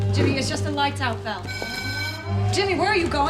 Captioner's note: alarm bell